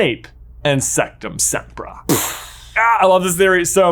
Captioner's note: mimics explosion